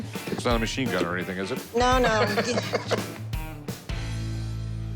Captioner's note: laughs